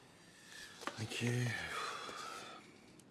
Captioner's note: sighs